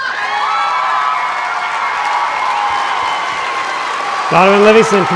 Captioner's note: applause